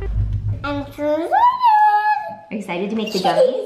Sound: giggles

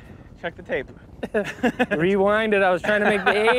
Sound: chuckling

